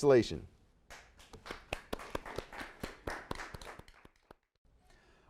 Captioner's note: audience applauds